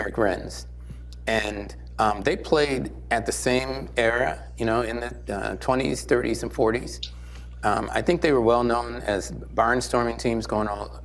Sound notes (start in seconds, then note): none